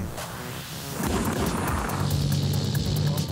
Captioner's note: gunshots, dynamic music